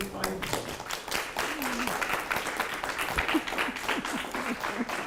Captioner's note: applause